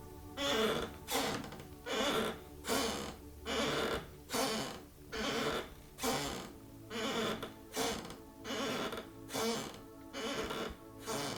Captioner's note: rocking chair